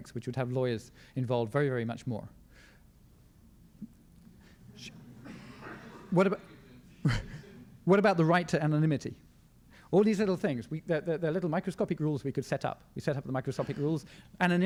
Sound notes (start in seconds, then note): 4.6 crowd murmurs